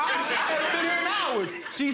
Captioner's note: audience laughing